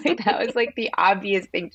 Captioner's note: laughter